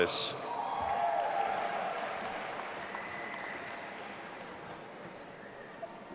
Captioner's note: audience applauding and cheering